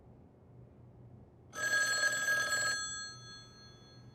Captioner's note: phone rings